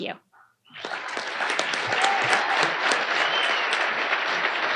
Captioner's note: audience applauding